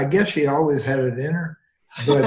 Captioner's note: laughter